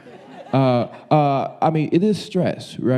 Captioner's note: audience laughing